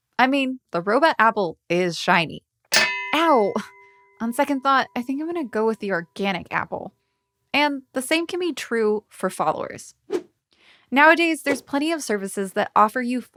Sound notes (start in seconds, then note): 2.7 metal clinks; 10.2 air whooshes